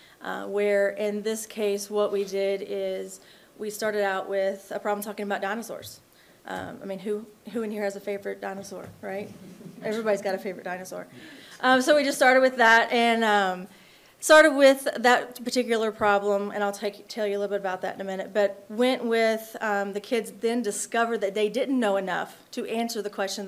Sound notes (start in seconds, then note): 9.2 attendees chuckling